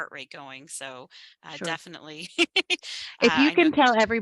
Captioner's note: laughs